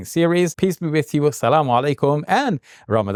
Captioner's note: speaks in Arabic